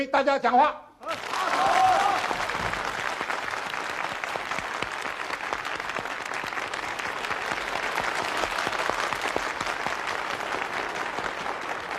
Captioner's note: audiences are applauding